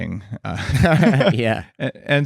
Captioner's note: laughter